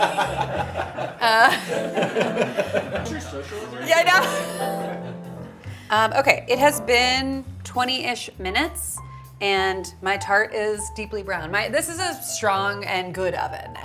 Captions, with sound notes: (crowd laughs) (crowd chatters) - Okay, it has been 20-ish minutes and my tart is deeply brown. This is a strong and good oven